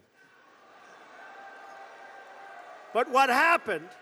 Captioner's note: applause